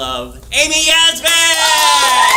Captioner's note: applause